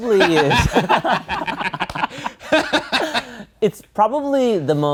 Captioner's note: guys laughing